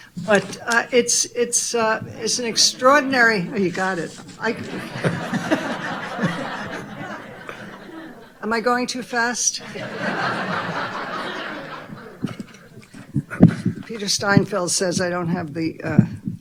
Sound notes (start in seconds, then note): 4.8 all laughing loudly; 9.4 audience laughing loudly